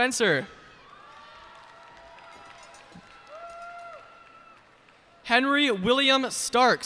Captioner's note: cheers and applause